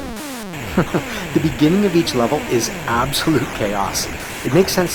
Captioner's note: chuckles